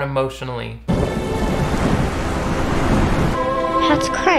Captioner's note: thunder quietly rumbling; rain pattering